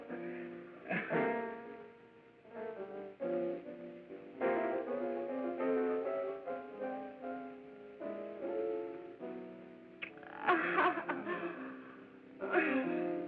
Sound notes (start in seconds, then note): 10.0 laughing